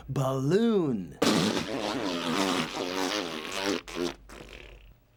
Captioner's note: "balloon" deflating